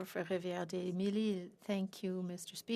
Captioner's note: speaking FRENCH